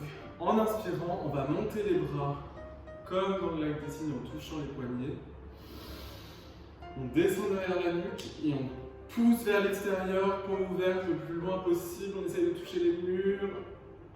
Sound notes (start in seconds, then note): 5.5 breathe in